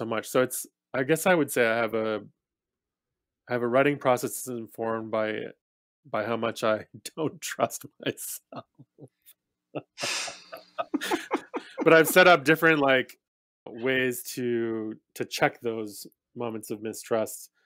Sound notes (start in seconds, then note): 9.8 laughs